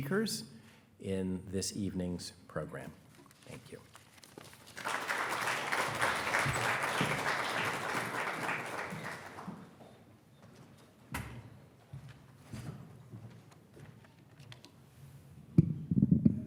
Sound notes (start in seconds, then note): 4.4 attendees applauding; 4.6 footsteps plodding